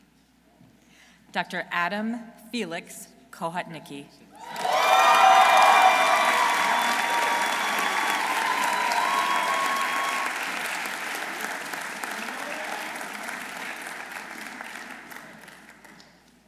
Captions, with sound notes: Dr. Adam Felix Kohutnicki. -(audience cheering) -(audience applauding)